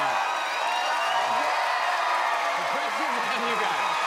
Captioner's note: cheers and applause